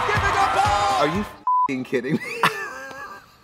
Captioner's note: beep